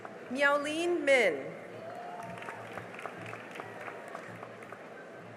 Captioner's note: cheering and applause